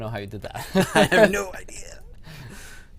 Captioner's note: laughter